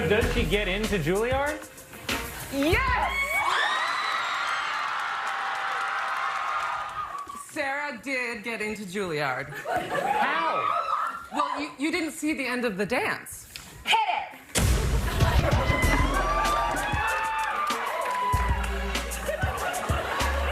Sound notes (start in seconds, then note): 6.5 cheers and applause